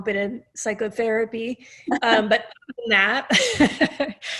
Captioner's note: laughter